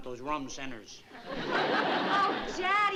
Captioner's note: laughter